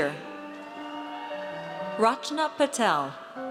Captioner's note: audience cheers